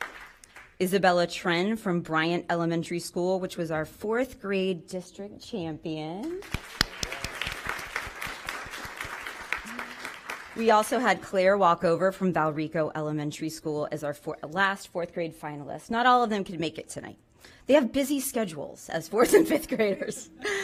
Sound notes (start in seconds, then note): 0.2 applause; 11.2 applause